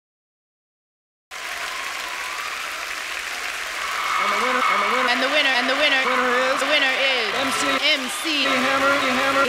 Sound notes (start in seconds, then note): 1.3 audience applauding